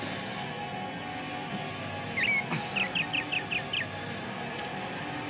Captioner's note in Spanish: Trinar de pájaros